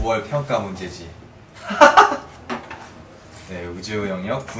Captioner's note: real laugh